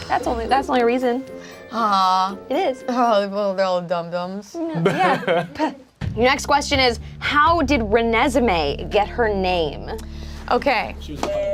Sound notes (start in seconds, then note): 4.7 group laughs